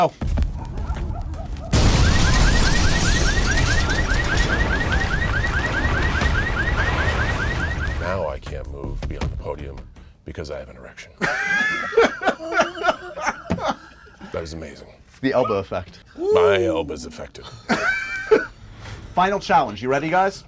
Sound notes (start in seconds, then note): 0.3 dogs barking; 1.6 explosion; 1.6 car alarm; 11.2 laughter; 17.4 laughter